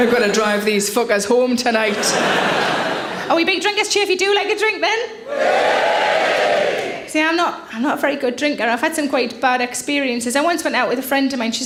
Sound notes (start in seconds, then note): 0.0 audience laughs; 1.8 audience laughs; 5.2 audience cheers